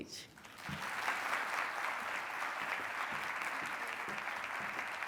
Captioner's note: audience applauds